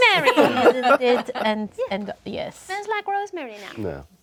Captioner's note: group laughs